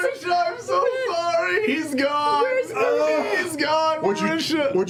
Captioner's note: crying